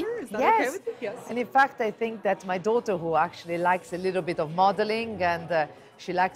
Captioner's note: in English